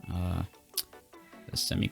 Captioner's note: lip smack